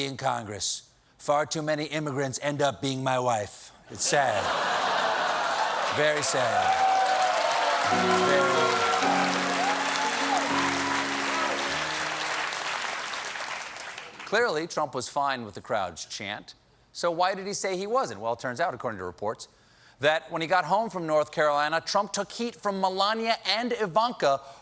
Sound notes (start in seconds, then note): 5.0 cheers and applause; 12.8 piano riff